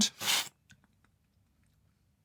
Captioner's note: slurp